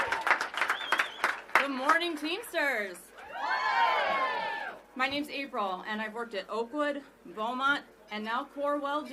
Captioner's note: applause